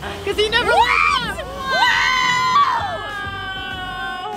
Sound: screams

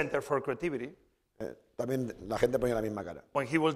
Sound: speaking spanish

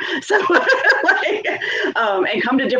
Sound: laughing

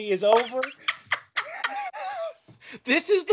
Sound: laughing

